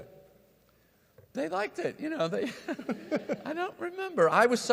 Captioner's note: chuckles